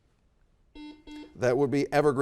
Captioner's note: buzzer dings